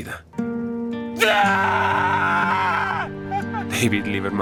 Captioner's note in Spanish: Grito